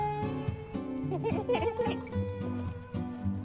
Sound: happy little goat noise

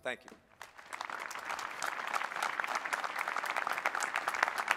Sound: applause

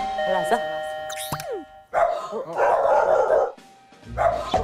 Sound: door bell finally rings

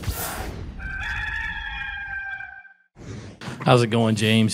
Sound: rooster crows

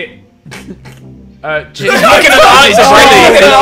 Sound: students murmurs

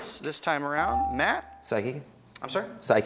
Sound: ding

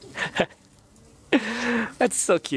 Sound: chuckles

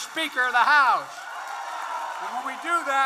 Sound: applause

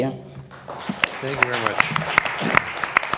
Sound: applause

